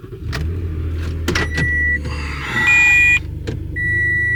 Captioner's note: car beeping